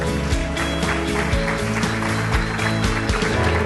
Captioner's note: applause; upbeat music